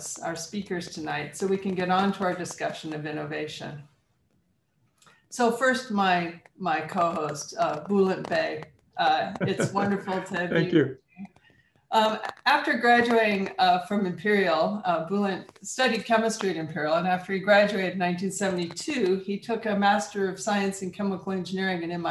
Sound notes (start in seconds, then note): 9.1 laughs